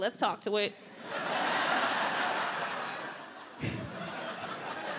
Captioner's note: audience laughs